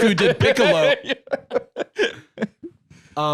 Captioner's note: laughing